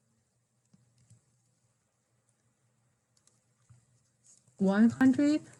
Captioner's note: mouse clickings